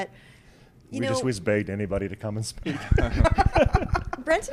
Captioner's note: laughs